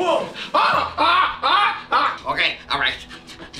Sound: screaming

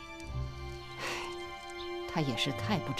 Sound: sigh

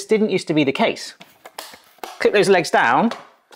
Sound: plastic clicking

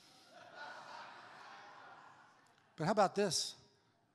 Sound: crowd laughing

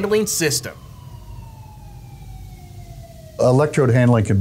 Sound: sirens ringing continues

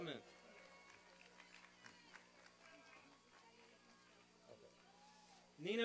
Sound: applause and cheering

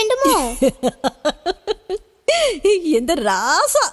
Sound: giggles

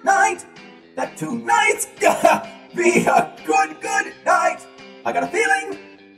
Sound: coughing

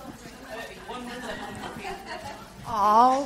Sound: audience murmurs

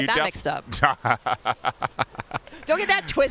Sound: laughter

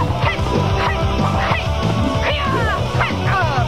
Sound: loud shouting

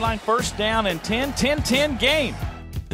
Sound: voiceover

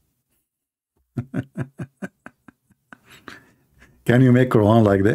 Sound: Ketawa

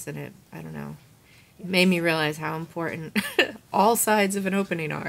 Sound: chuckles

